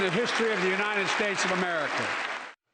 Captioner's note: applause